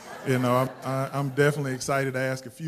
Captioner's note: laughter